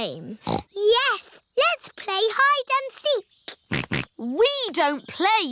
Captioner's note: snorts; snorting